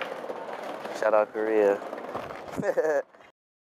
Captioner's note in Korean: 웃음